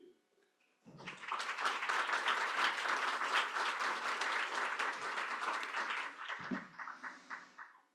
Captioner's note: applause